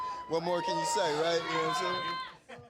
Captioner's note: laughs